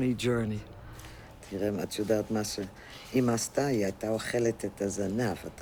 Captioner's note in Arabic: الصوت المنطوق باللغة العبرية